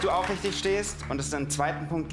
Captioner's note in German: Applaus